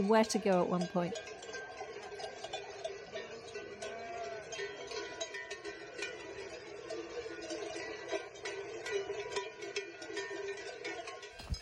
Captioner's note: sheep bells